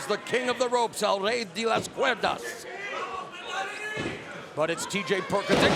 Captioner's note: speaking Spanish